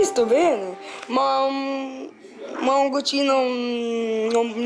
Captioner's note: speaking Italian